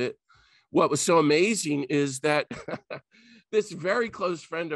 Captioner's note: laughs